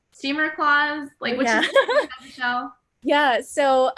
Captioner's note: laughs